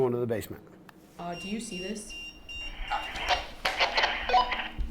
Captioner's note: EMF beeping